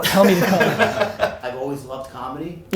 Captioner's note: group laughter